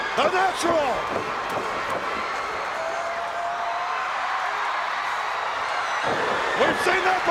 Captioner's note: crowd cheering